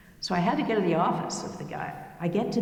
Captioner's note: none